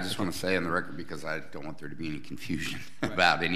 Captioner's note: laughs